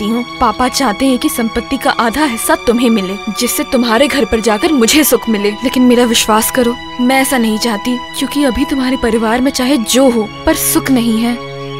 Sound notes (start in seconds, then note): none